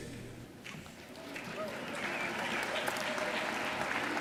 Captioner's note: audience applauding